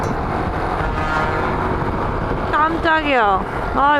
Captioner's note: car horn of a truck that was very loud!!